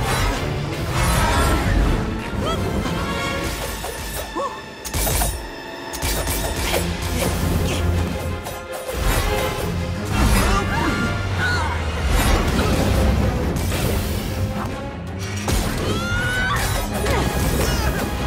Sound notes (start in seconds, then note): 10.1 both grunt; 15.8 screaming